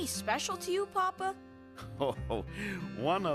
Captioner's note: chuckles